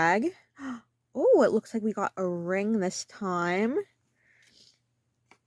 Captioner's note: gasp